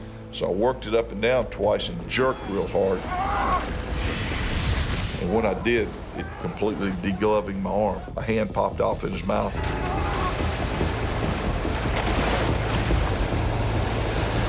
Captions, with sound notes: so I worked it up and down twice and jerked real hard. (screaming) And when I did, it completely de-gloving my arm, my hand popped off in his mouth. (water splashes)